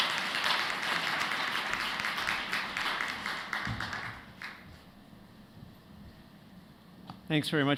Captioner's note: applause